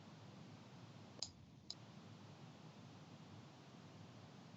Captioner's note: mouse clicking